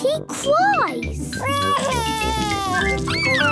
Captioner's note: crying